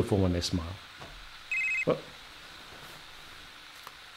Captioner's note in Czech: zvoní mobil